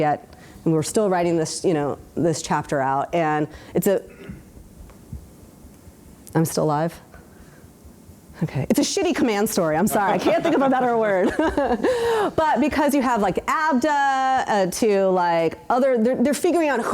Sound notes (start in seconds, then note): 12.1 laughs